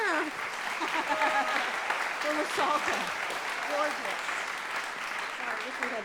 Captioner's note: audience cheering